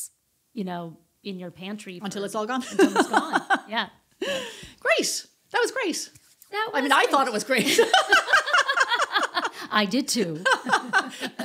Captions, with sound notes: in your pantry. Until it's all gone. Until it's gone, yeah. Grace, that was Grace. I mean, I thought it was Grace. (laughing) I did too.